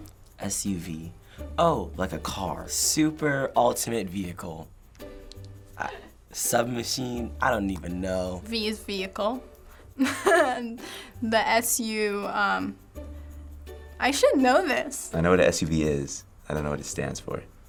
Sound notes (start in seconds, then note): 10.0 chuckles